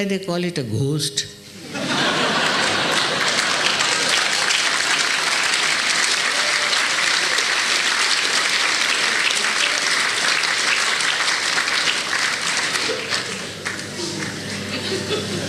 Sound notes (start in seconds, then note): 6.9 laughter